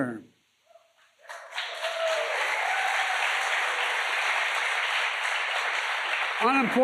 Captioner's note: applause